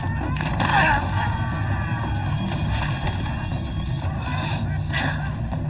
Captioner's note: intense music; grunting